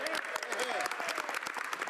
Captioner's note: speaking French